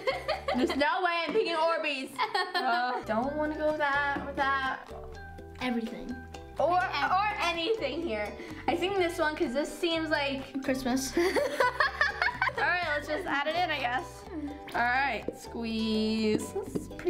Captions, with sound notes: there's no way I'm picking orbeez! I don't wanna go with that. - Everything. Everything. - Or anything here. I think this one 'cause this seems like - Christmas (laughs). - All right, let's just add it in I guess. All right, squeeze.